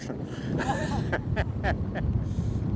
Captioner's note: laughs